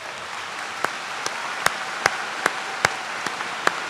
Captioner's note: applause